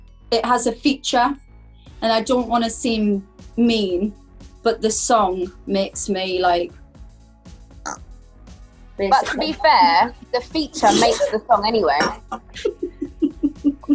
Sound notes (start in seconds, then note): 9.2 gagging; 10.7 laughing